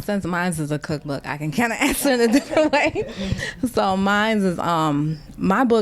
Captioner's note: laughter